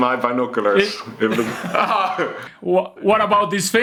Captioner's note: laughs